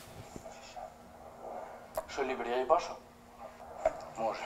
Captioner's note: voices